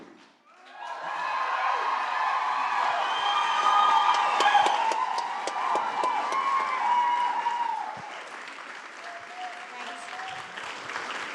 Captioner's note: applause